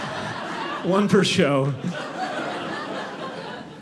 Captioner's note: audience laughing